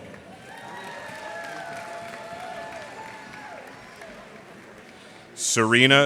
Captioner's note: cheers and applause